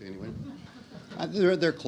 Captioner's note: audience laughs